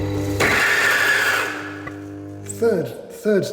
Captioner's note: grinder whirring and jamming